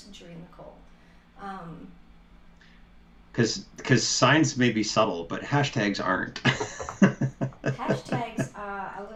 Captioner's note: laughter